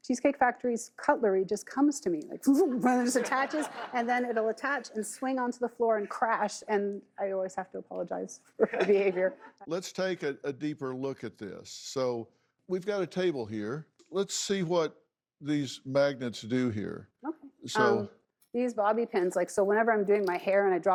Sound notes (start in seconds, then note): 3.0 audience laughs